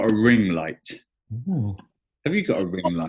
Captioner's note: chuckling